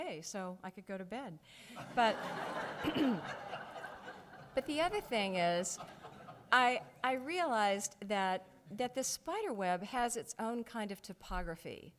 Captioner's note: audience laughs